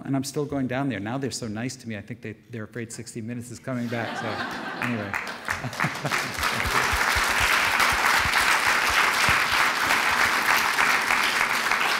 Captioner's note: audience laughter and applause